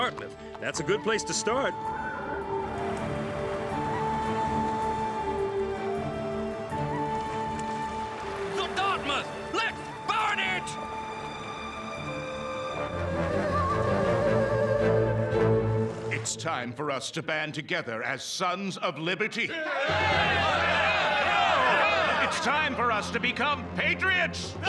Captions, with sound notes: THAT'S A GOOD PLACE TO START. THE DARTMOUTH! LET'S BURN IT! IT'S TIME FOR US TO BAND TOGETHER AS SONS OF LIBERTY. [CHEERING] IT'S TIME FOR US TO BECOME PATRIOTS!